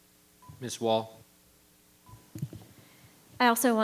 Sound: microphone beeping

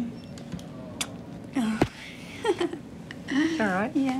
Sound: chuckles

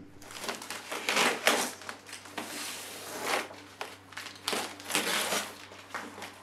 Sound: box tape unravels

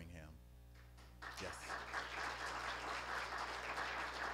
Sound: applause

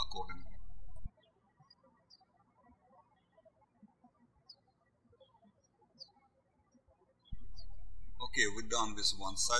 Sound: birds chirping

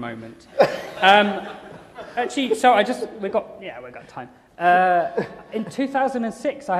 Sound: laughter

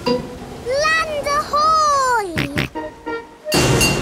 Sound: snorts

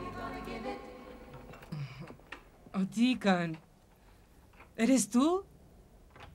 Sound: key turns in door

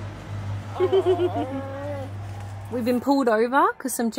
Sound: giggles; coos

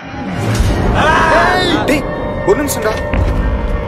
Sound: screams heard

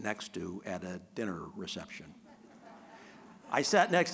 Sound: audience laughing

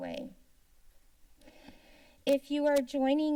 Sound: silence

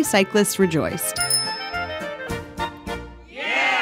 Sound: bike bell rings; crowd cheers

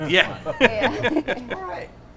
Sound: agreeing and laughing together

